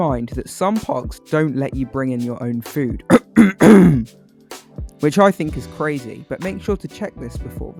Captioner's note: cough cough